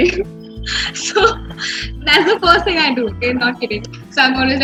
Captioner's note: laughs